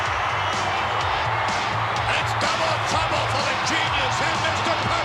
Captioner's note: applause